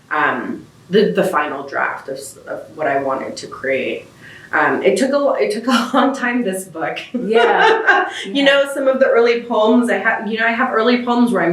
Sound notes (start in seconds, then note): 7.0 laughs